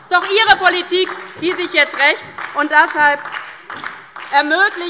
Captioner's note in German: Beifall DIE LINKE und vereinzelt SPD